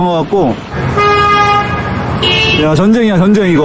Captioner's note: endless honking